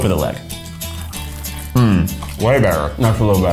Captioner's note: upbeat music; both crunching